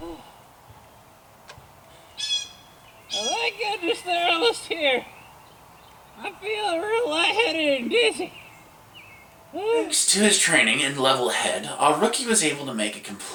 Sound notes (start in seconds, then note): 9.1 lights and sirens